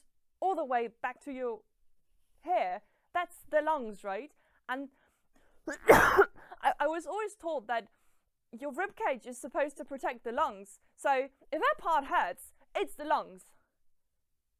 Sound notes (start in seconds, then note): 5.6 coughing